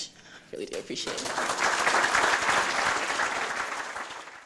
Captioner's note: audience applauding